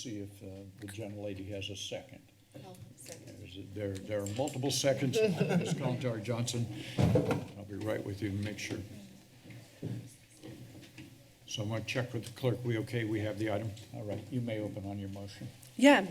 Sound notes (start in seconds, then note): 5.1 chuckles; 6.9 thud